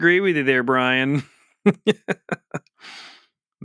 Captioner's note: laughs